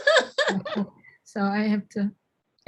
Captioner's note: laughing